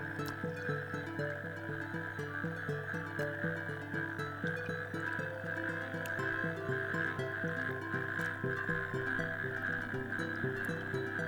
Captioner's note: toads croak as they hop around lilypads